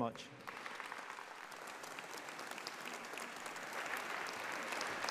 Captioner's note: audience applauding